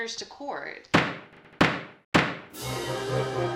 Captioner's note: gavel hammering